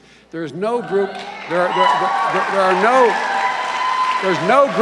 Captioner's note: cheers and applause